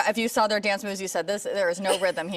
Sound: laughing

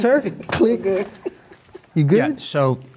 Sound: group laughing

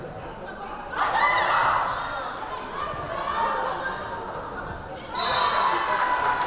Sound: teams and crowd yelling; whistle blaring; crowd cheering

